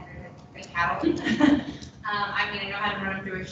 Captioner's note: laughs